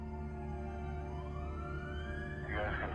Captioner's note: siren wailing